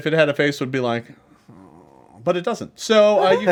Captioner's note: groans